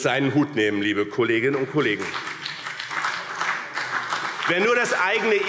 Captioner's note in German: Beifall BÜNDNIS 90/DIE GRÜNEN und CDU